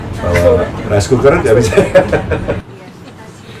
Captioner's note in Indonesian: tertawa